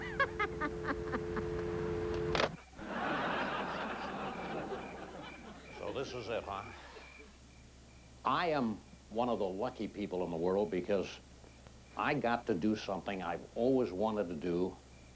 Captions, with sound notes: ( audience laughs ) ( Carson on t.v. ) Well, this is it, I am one of the lucky people in the world because, I got to do something, I've always wanted to do,